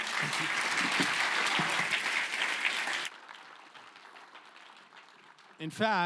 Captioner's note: applause